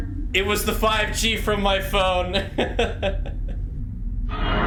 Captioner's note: laughs